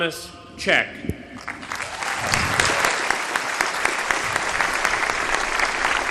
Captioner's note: applause